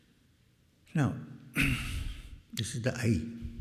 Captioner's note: clears throat